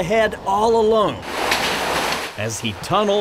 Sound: footsteps

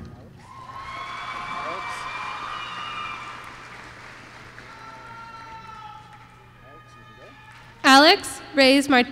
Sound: applause

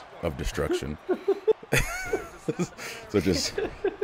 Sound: laugh

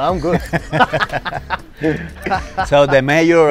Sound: laughs

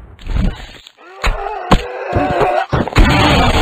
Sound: screams

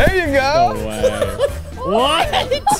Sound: laughing

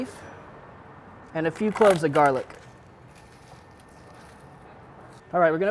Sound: crunching

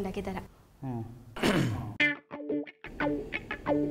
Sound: clears throat

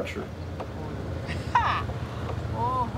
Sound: laughing

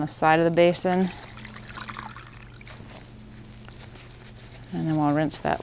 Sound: water splashing

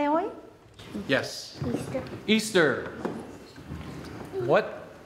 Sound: speaking Spanish

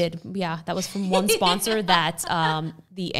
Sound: laughs

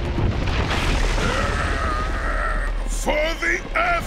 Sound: groaning

